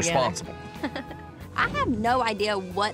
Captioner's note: chuckling